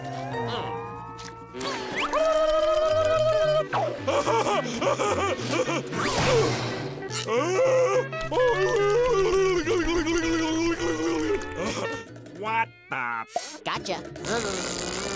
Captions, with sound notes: [babbling] [laughing] [groaning] -What the--? -Gotcha.